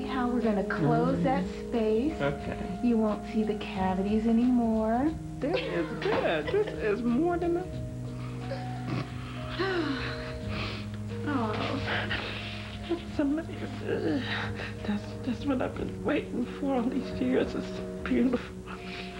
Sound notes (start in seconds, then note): 10.1 whimpers, sniffles